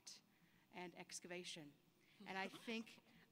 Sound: laughter

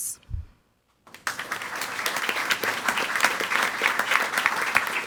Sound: audience applauding

